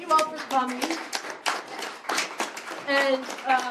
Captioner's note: applause